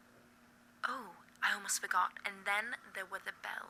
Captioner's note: none